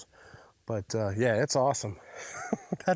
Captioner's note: laughs